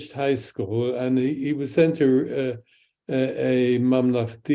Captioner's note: speaks in Hebrew